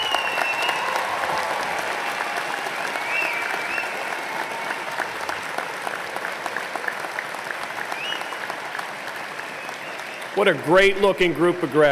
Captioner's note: applause